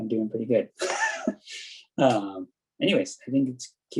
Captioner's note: chuckles